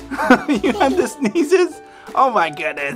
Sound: laughing

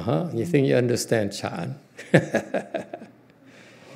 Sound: laughs

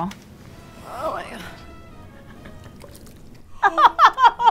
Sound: meat slopping; laughing

